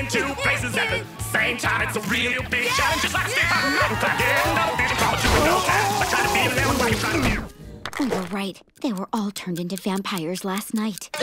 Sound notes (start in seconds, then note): 2.6 screaming